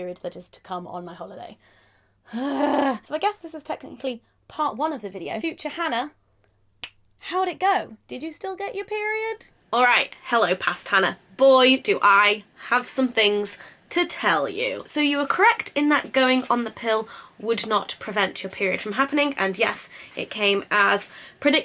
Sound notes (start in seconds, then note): 2.2 exasperated sigh; 6.8 clicks fingers